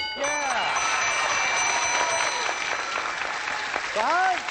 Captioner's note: cheering